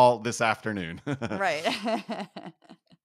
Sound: laugh

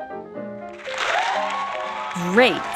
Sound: clapping

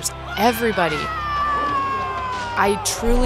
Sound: cheering

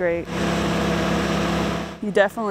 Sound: wood chipper running

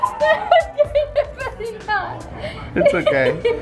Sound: laughing

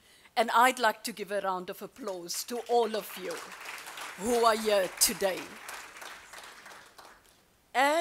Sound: applause

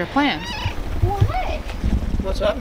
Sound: meow

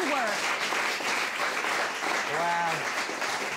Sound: audience applauding

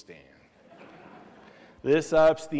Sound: laughter

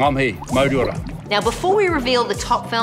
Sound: bubbles

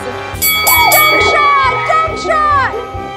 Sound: dings

